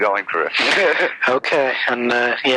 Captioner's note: laughs